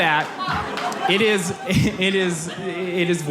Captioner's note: audience laughs